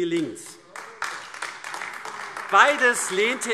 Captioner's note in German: Beifall AfD